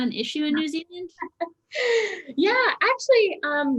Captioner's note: chuckles